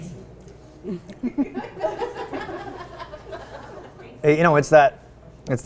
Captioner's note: audience laughing